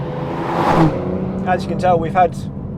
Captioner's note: car zooming